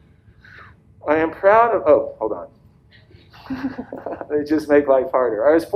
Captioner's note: laughs